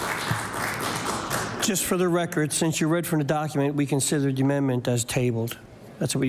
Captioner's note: applause